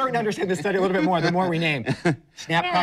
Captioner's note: laughs